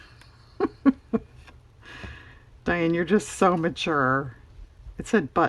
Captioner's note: laughs